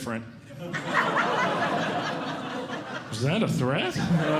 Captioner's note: audience Laughing